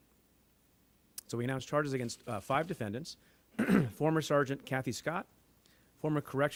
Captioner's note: clears throat